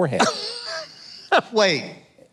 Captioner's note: laughs